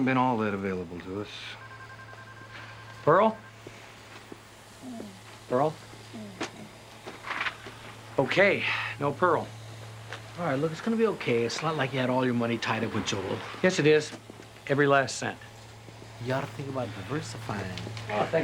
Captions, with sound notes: - Pearl hasn't been all that available to us. (phone ringing) - Pearl? Pearl? Okay, no Pearl. - All right, look, it's gonna be okay. It's not like you had all your money tied up with Joel. - Yes, it is, every last cent. - You oughta think about diversifying.